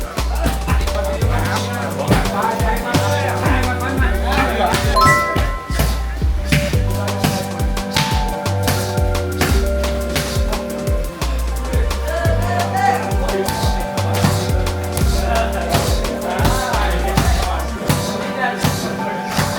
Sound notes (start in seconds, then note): 3.4 crowd chattering